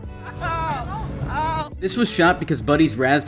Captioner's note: whimpers